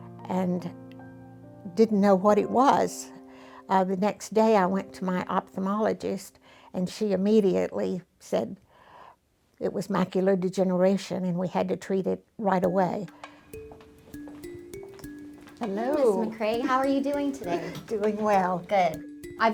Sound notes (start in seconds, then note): 13.1 footsteps tapping; 13.1 subdued music